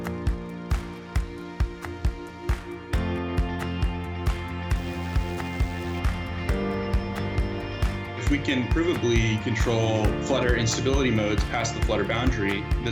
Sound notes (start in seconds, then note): 3.2 helicopter flying